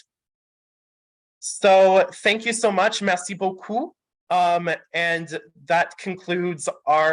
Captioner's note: French